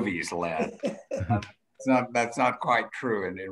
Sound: people laughing

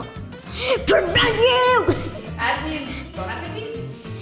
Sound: foreign language

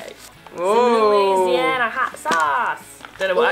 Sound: American accent

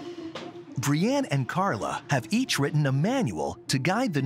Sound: voiceover

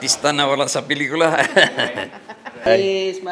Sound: laughs

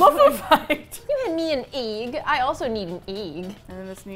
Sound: playfully

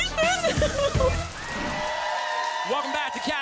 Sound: audience applause

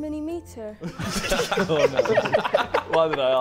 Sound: Sidemen laughing

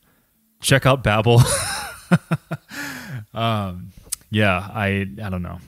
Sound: laughing

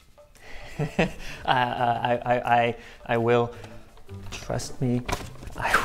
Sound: laughs

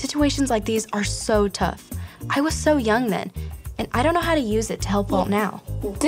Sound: none

